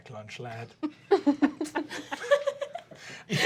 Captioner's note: laughing